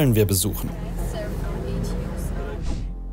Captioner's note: quiet voices